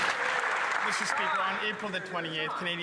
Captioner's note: some Applause